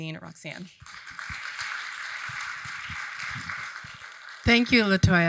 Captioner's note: audience applauding